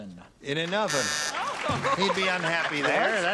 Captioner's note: buzzing